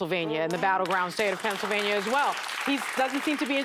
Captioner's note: applause